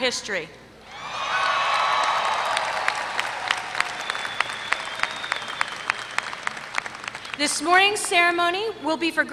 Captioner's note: applause